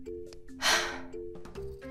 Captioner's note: sigh